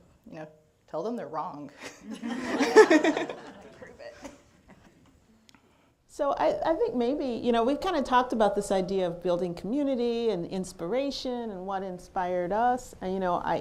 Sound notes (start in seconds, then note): 1.8 laughter